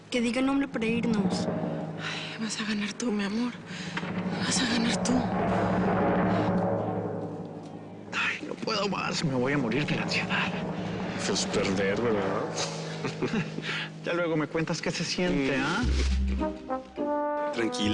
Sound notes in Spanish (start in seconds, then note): 5.6 Redoble; 12.9 Risa nerviosa